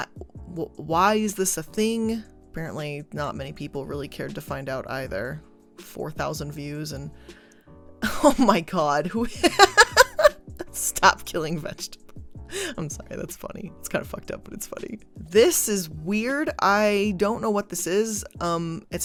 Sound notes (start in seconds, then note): 9.4 laughs